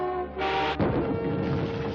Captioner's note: atomic blast, explosion